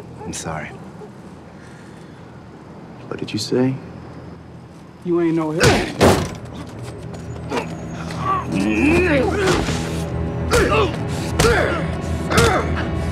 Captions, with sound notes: - I'm sorry. What did you say? - You ain't no Harold- (Douda grunts) (man groaning) (Douda grunting) (man groaning)